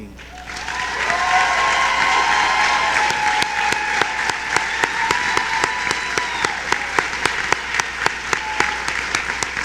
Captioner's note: cheering